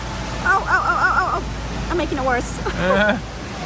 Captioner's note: laughs